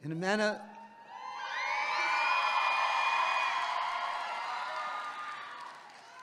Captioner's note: audience clapping and cheering